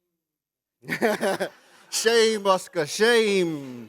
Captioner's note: laughs